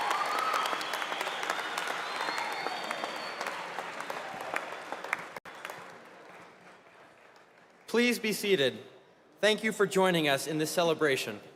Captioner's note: cheers and applause